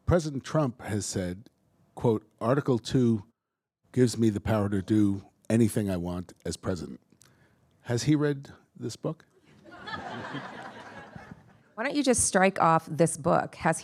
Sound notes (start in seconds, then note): 9.5 attendees laughing